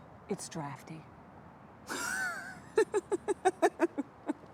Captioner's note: Isabel laughing